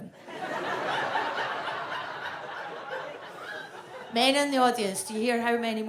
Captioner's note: audience laughs